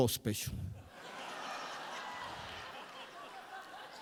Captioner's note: crowd laughs